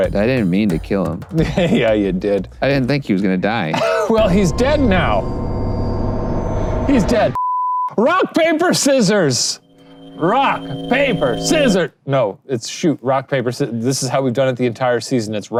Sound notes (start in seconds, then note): 4.1 intense music; 7.6 beep